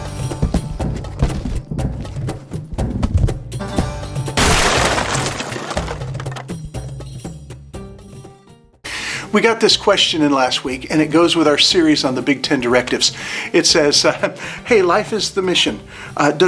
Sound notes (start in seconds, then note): 0.0 light music; 4.3 box explodes